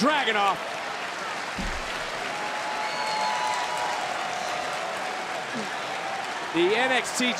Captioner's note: crowd cheering